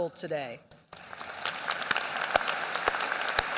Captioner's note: applause